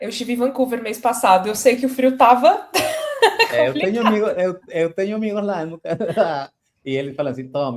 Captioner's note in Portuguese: risadas